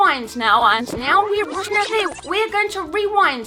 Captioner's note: rewound speech